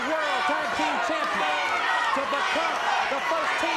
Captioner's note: audience chanting